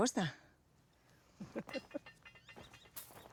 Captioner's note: María Rosa chuckles